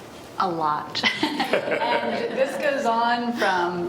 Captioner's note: panel laughs